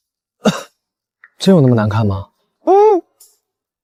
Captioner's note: cough